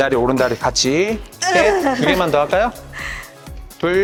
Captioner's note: an involuntary scream